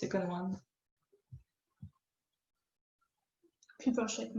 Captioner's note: silence